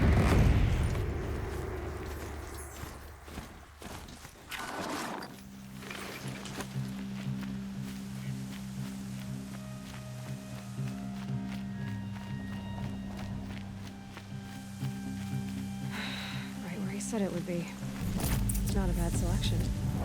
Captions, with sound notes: (sigh) Right where he said it would be. Not a bad selection.